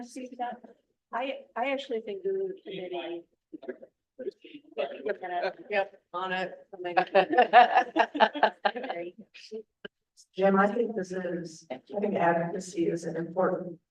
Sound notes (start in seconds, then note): 7.0 laughter